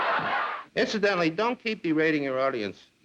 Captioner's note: audience laughs